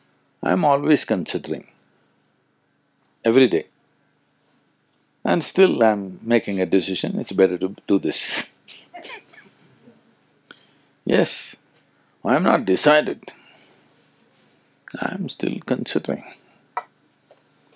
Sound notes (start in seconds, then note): 8.4 laughs